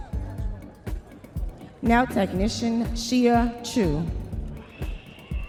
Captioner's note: audience members cheering